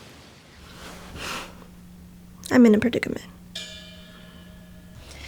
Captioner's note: huffs